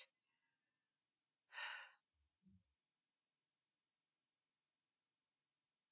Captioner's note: nyx takes a breath